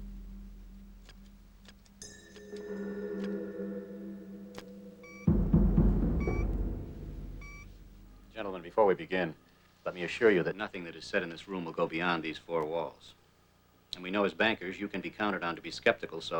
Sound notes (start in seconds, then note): 4.9 beep beep beep